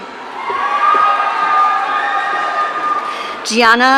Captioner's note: audience cheering